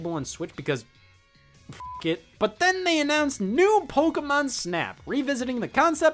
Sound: beep

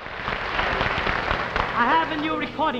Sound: audience applauding

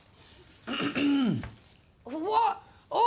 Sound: clears throat

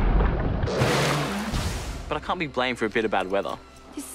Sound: whooshes

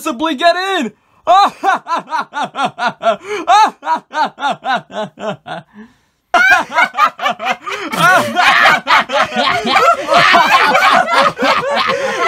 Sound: laughs

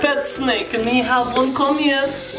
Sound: snake hissing

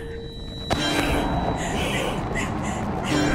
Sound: growling

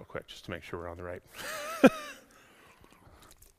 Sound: laughs

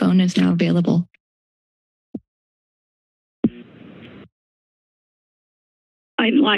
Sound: silence

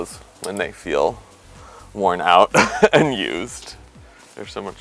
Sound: laughs

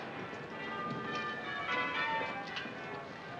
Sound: peal of bells

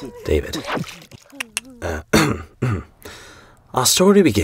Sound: David clicks tongue; narrator clears throat

